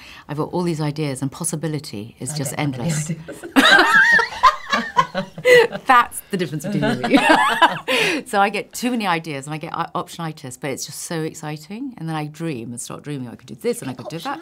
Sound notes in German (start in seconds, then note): 5.0 lachen